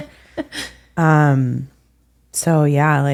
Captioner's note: laughing